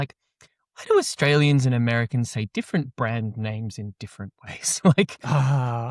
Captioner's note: chuckles